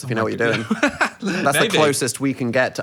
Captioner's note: laughs